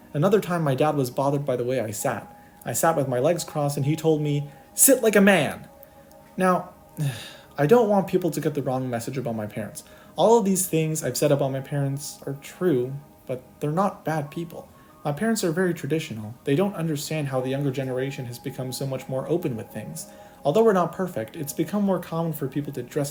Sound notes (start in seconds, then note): 7.0 sigh